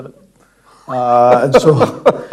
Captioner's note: laughing